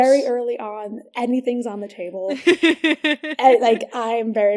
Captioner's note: laughs